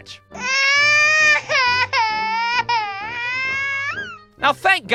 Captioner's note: loud schoolboy bitch crying